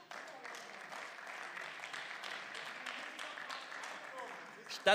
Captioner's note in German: Beifall